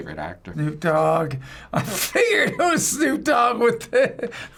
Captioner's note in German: kichert